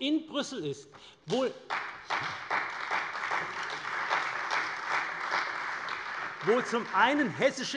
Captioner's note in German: Beifall bei der CDU